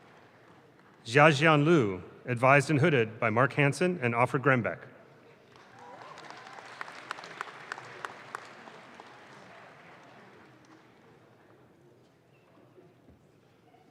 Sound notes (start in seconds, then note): 5.4 audience claps